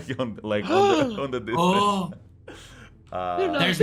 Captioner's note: gasps